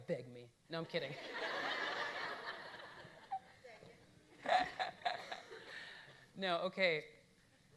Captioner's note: audience laughing; laughing